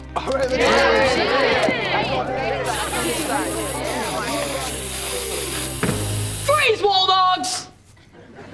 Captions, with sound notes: [cheering] [spray painting] Freeze, Wall Dogs!